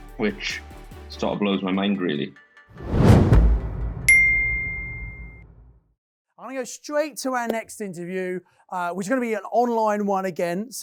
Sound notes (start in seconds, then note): 4.1 bell dings